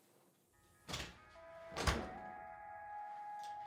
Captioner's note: storm door, then door clicks shut; upbeat music